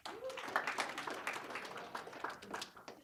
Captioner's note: applause